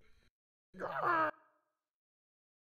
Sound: scream

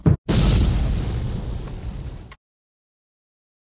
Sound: bam; boom

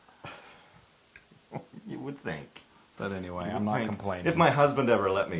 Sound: laugh

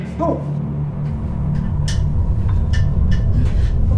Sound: earthquake rumbling

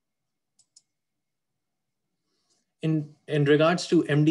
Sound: clicking

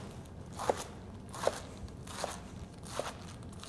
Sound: chopping sounds

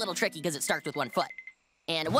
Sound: twinkle toes sound

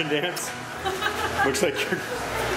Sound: laughter

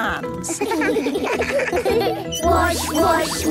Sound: children giggling

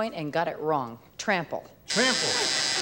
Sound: buzzer

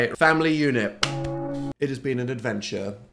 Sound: bell tolls

